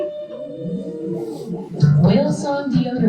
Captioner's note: whale song